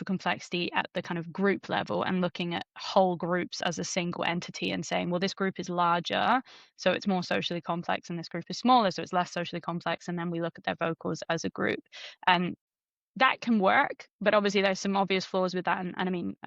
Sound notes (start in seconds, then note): none